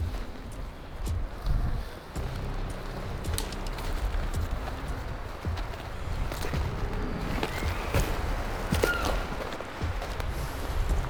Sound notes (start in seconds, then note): 7.3 elk bugling